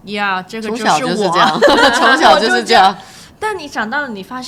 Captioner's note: laughter